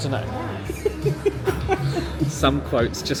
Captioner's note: laughs